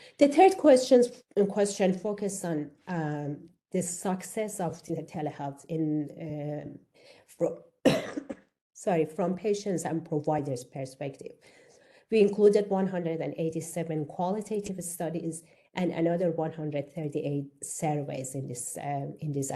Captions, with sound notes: The third question focuses on the success of telehealth from (coughs), sorry, from patients and providers perspective, we included 187 qualitative studies and another 138 surveys in this assessment.